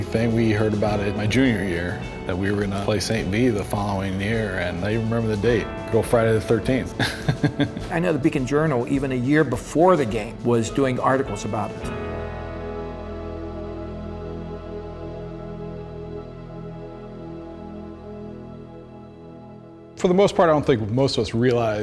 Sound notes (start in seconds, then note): 7.0 laughing; 12.9 inspiring music